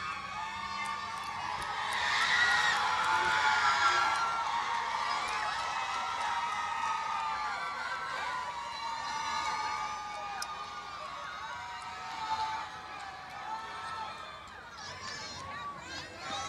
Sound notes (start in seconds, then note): 1.9 cheers and applause